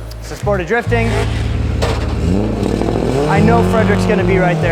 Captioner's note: dramatic music; engine revving